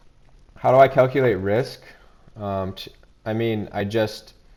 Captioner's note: none